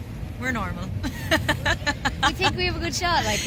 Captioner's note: laughs